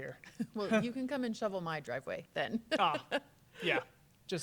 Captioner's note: giggles